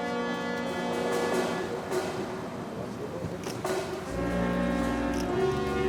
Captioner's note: cameras click; car hums